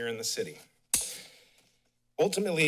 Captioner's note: smacks lips